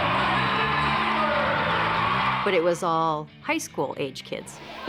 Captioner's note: people cheering